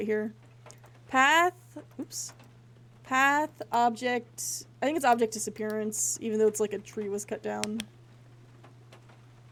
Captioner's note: flashlight Clicks On